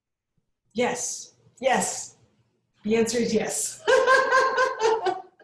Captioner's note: laughs